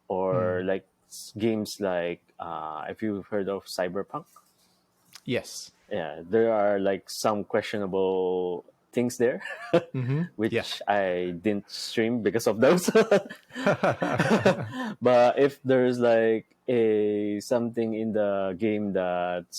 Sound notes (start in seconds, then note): 9.4 laughs; 12.6 both laughing; 12.6 laughs